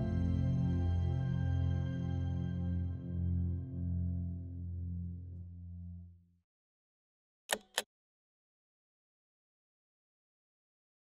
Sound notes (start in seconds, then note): 7.5 machine clicking